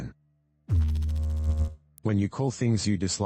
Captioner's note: electrical noise